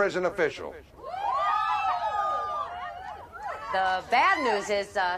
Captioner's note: inmates cheering